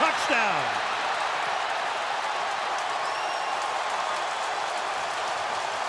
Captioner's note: cheering